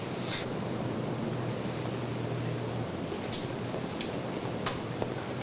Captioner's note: machinery humming